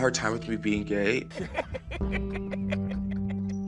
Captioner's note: laughing